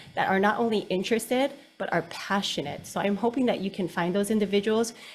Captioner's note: none